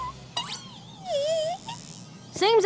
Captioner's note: squeals